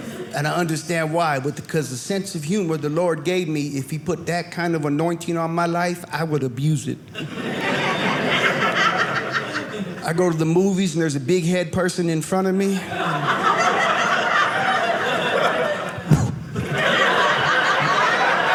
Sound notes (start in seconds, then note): 7.1 audience laughing; 12.7 audience laughing; 16.0 smacking sound; 16.7 audience laughing